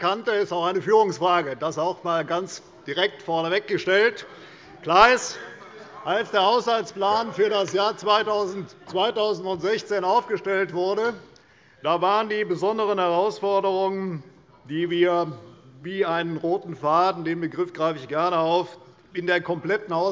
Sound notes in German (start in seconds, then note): 4.3 Zurufe von der SPD